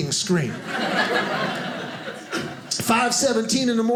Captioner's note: audience laughing